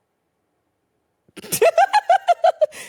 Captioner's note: laughing